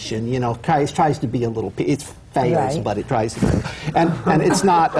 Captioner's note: laughter